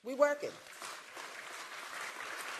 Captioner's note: applause